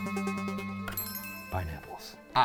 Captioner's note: light chime